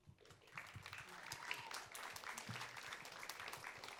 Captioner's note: audience cheering